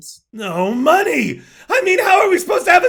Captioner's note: inhales